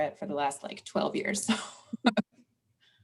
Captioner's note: laughs